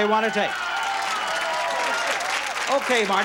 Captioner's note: applause